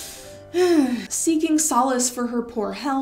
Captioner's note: sigh